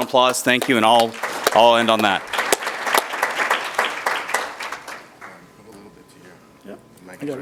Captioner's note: applause